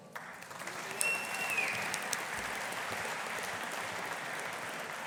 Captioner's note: audience applauding